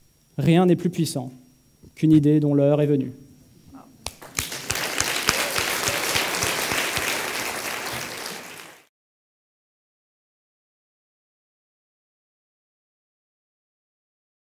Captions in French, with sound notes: « Rien n'est plus puissant qu'une idée dont l'heure est venue. » (Applaudissements)